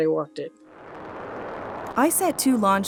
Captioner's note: rocket launching